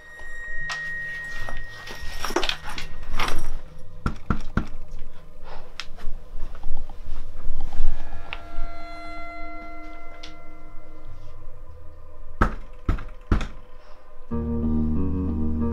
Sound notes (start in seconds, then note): 3.8 knock on front door; 13.2 slower, more forceful knock on front door